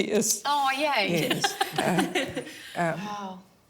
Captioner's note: laughs